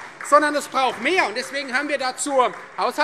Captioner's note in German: Beifall Freie Demokraten